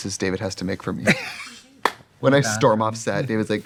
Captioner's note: Katya laughs